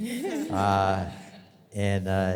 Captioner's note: audience laughs